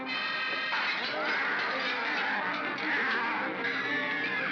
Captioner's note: suspenseful music; bogeymen growl; glass breaks; children scream; suspenseful music